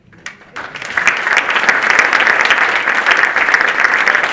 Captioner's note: audience applauding